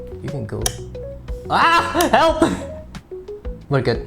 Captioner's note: light switch clicks; light switch clicks again